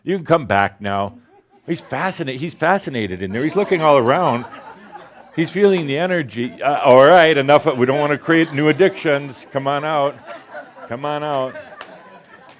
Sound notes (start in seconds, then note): 3.3 more laughter